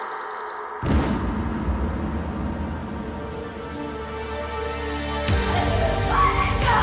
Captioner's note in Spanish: Explosión